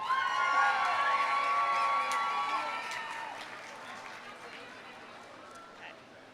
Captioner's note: audience cheering; audience applauding